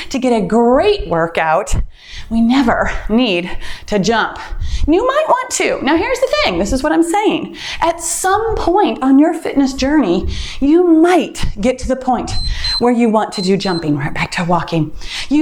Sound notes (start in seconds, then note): 12.2 timer beeps